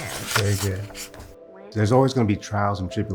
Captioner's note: reading aloud